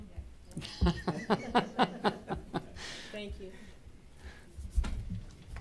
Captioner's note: laughter